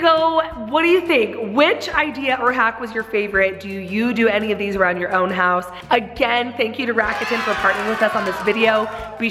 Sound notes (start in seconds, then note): 7.0 crowd cheers